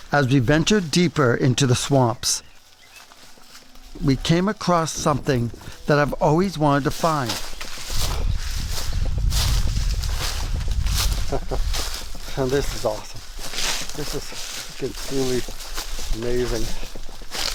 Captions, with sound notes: As we ventured deeper into the swamps, we came across something that I've always wanted to find. [rustling leaves] [chuckles] Now, this is awesome. This is completely amazing.